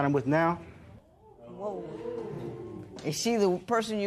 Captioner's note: audience murmurs